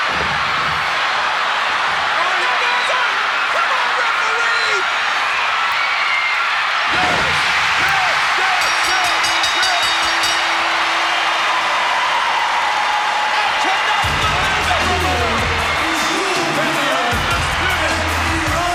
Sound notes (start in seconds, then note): 0.1 crowd cheering; 5.4 crowd cheering continues; 9.9 bell dinging; 9.9 crowd cheering; 13.5 crowd cheering and upbeat music drowns out speakers